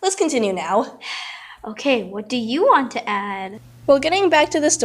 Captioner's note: sigh